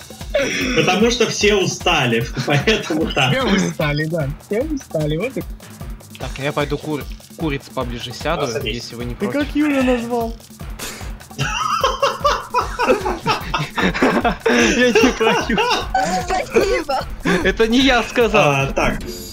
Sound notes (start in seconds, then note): 2.2 everyone laughs; 10.6 laughs inaudibly; 11.3 forgot about the food and laughs